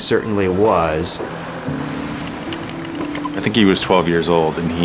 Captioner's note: ocean Sounds